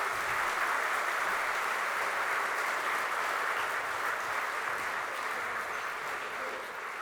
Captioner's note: applause